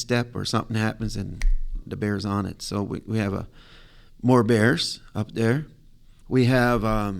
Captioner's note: snaps finger